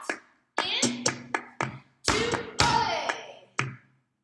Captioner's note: stomp stomp